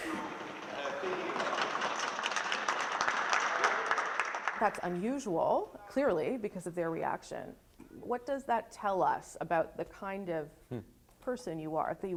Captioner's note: applause